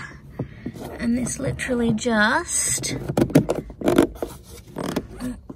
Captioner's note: fitting makes creaky, squeaking noise